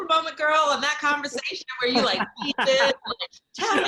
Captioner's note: laughing